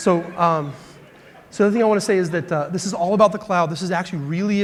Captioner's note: laughter